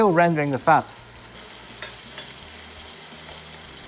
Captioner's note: sizzling sound